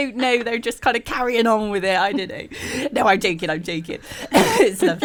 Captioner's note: laughs